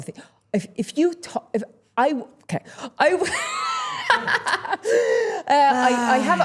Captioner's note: chuckles